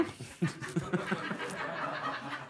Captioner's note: laughter